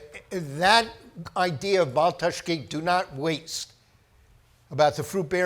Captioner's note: speaks foreign language